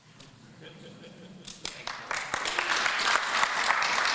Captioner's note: audience laughs; applause